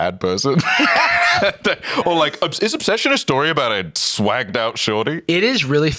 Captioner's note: laughs